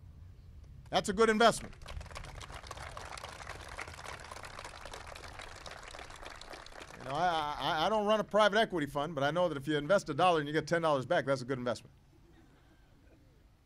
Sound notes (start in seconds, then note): 4.3 applause